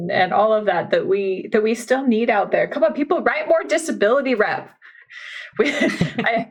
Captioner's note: laughing